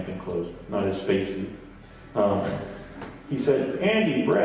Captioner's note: chuckles